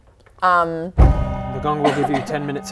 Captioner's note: gonggg